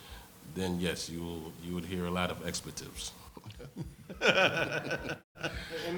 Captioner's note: laughs